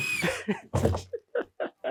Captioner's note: power tool whizzing; speaker laughing